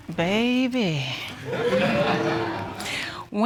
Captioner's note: audience gasping